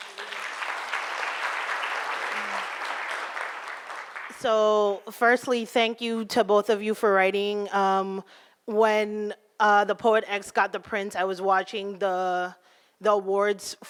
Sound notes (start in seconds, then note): 0.0 applauding